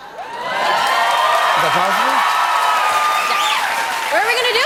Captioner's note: cheers and applause